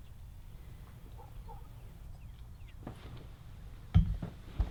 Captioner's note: dog barking